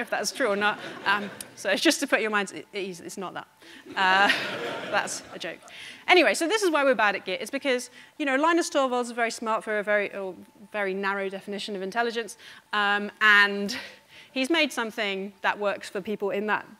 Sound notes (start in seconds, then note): 3.8 audience laughing